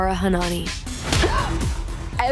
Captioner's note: gasps